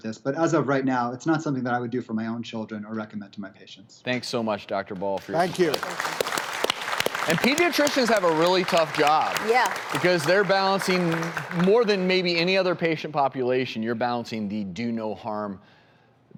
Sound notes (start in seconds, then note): 6.3 applause